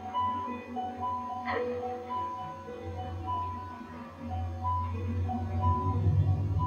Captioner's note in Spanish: llorando